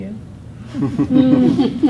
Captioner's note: students chuckling